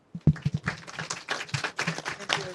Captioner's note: audience applauds